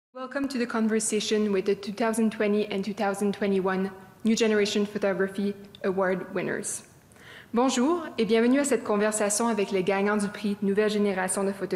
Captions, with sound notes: Welcome to the conversation with the 2020 and 2021 New Generation Photography award winners. [Speaking French]